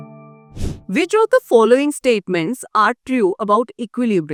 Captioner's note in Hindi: नाक से की जाने वाली आवाज़